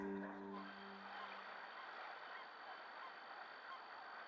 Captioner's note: birds squawking